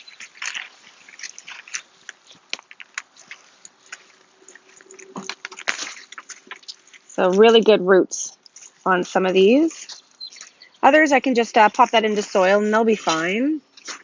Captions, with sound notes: (plant snaps) So really good roots on some of these. Others, I can just pop that into soil and they'll be fine.